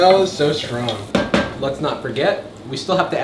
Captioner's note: spoon hits pot